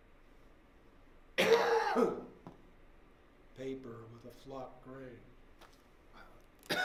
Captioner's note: coughs